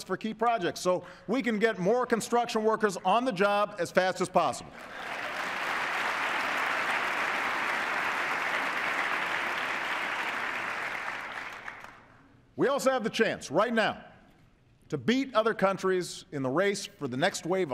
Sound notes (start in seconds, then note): 8.5 applause